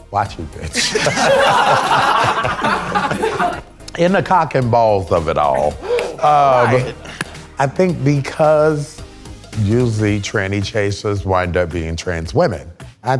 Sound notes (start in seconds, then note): 0.6 participants laughing; 5.6 gasps